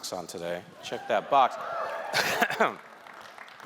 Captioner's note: audience cheering; chuckling